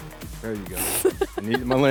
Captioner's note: laughs